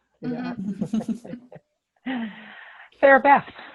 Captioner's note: panelists laugh